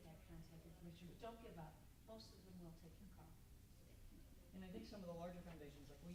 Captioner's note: mutters